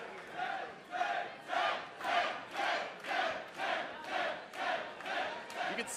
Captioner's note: fans chanting